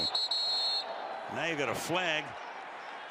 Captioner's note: whistle